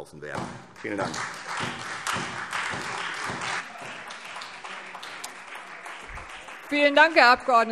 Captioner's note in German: Beifall